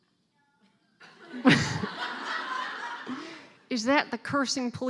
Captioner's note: laughing